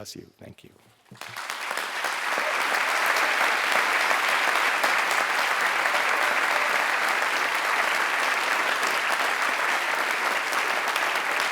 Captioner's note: applause